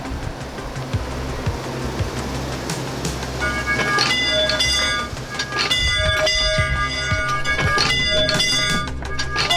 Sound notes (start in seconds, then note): 3.4 bell ringing